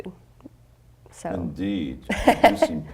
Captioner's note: laughing